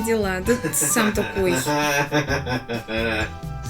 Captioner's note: laughing